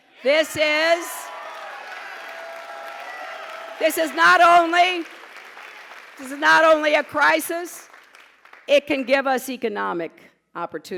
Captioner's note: pause, applause